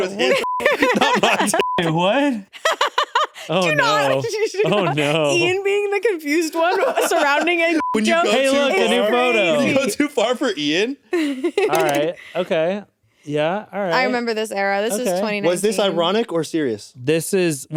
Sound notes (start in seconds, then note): 0.2 beep; 2.5 laughs; 7.7 beep